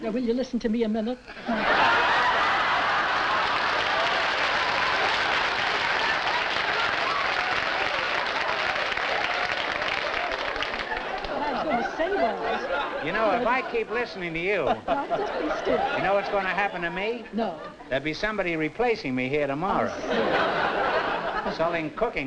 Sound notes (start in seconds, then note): 1.4 laughter